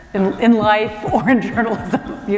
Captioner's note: laughter